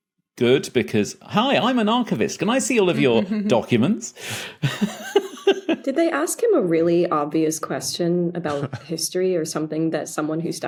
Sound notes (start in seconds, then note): 4.2 giggles